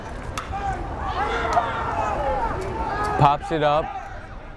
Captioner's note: bat cracks